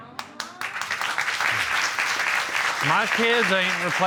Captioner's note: applause